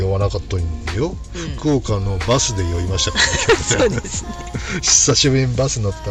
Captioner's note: laughs